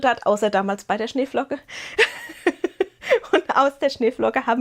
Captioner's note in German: Gelächter